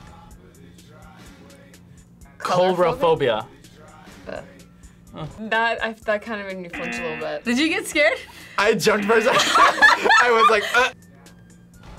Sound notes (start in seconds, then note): 6.7 buzzer rings; 8.9 both laugh